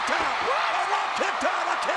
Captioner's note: spectators cheering